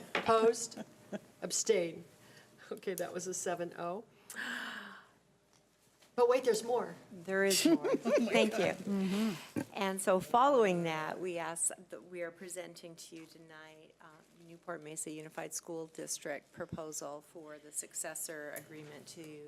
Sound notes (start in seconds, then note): 7.5 laughing